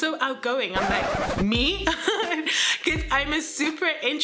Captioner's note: record scratches; laughs